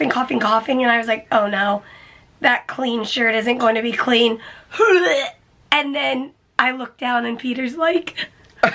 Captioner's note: vomit sound; laughs